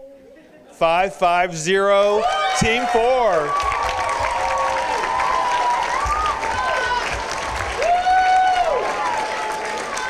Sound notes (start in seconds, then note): 3.7 cheering and applause